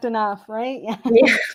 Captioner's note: chuckle